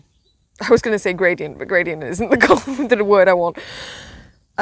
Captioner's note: laughs